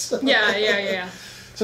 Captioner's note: laughs